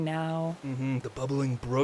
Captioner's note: water sounds